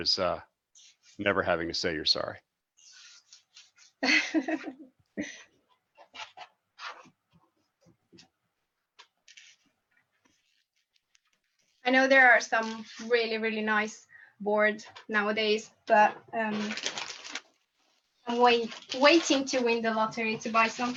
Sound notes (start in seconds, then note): 4.7 laughs